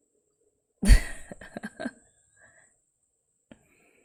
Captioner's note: laughs